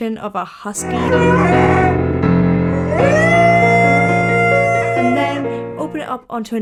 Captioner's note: light piano music; dog howling